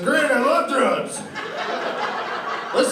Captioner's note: laughter